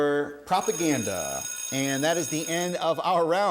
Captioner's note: bell ringing